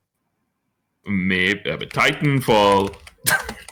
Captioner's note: typing